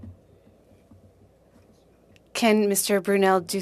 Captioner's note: speaking in French